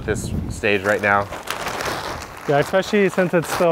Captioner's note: bag rustles